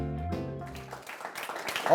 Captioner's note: applause